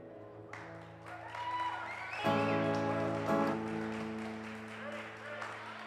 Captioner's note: audience applauds and cheers